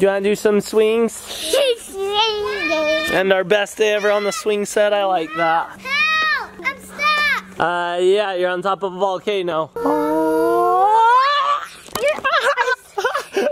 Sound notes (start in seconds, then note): 9.8 screaming